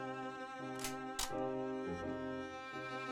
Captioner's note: cocks gun